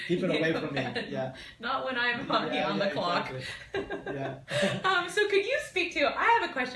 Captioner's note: laughter